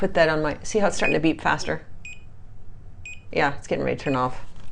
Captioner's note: beeping